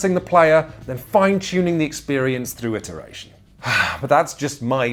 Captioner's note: sighs